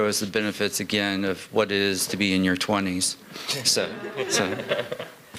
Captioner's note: laughter